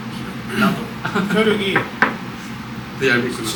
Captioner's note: knock knock